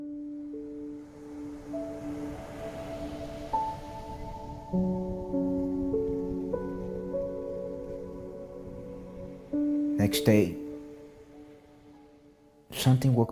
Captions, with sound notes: (gentle music continues) (waves crashing) The next day, something woke me up.